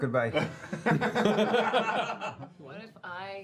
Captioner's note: laughing